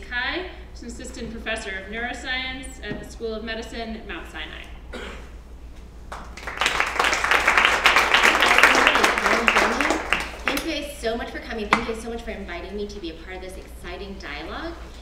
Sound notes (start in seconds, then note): 6.1 applause